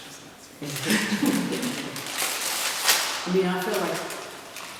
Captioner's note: laughter